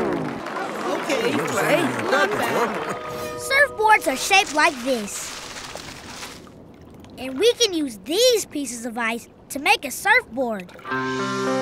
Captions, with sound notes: [crowd grumbling] Surfboards are shaped like this, and we can use these pieces of ice to make a surfboard.